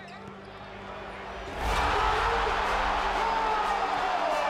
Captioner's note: crowd cheers Loudly